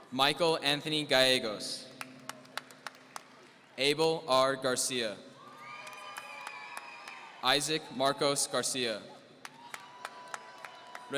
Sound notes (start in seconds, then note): 5.4 audience cheering